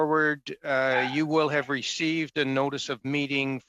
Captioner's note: dog barking